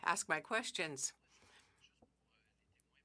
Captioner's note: speaking French